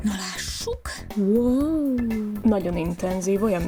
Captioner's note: impressed noises